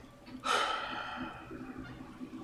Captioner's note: sighs